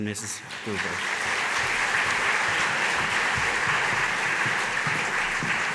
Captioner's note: audience applauding